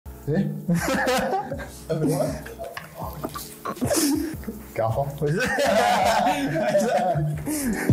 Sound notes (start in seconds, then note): 2.2 both laugh; 5.2 laughter